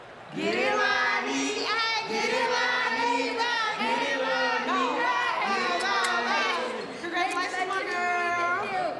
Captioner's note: chants